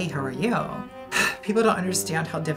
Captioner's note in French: soupire